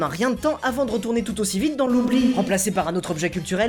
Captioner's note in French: echo